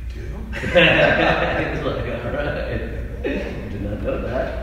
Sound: laughing

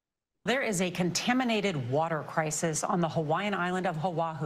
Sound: news audio montage plays

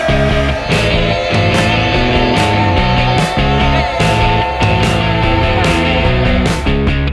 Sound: yelling continues

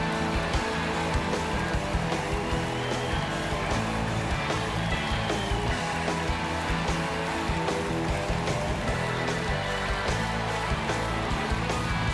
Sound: cheers and applause

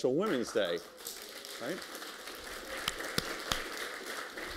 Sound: applause

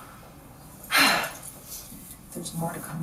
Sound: sighs

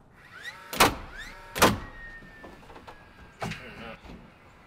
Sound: nail bangs loudly

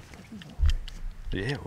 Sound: speaking quietly

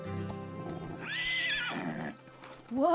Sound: neighing

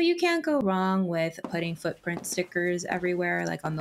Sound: soft footsteps thumping

